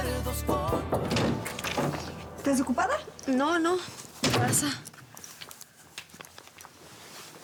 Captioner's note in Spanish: toques en la puerta